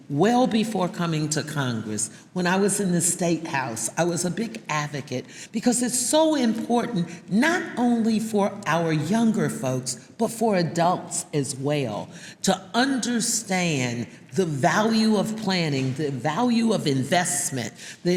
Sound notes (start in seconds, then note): none